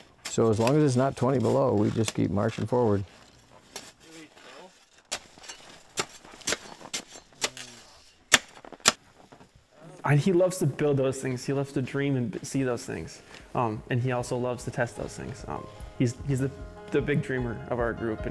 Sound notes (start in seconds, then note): 4.9 scrapes snow